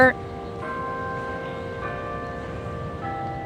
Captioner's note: bells chiming